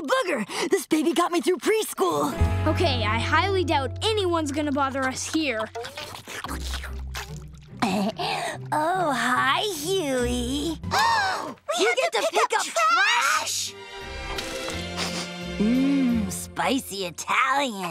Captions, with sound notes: This baby got me through preschool. Okay? I highly doubt anyone's going to bother us here. [slurping] Oh, hi, Huey. [gasping] We get to pick up trash? Mmm. Spicy Italian.